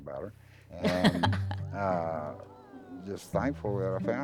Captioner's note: laughs